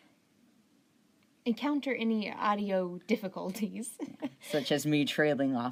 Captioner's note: chuckling